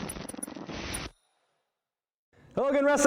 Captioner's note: static noise